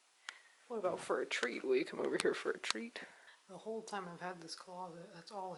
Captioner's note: normal voice